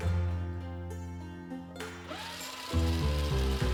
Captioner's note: circle slapping on floor; laughs